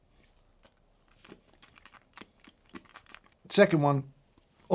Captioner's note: candy crunching